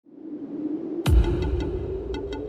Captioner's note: wind